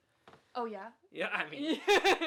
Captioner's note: laughs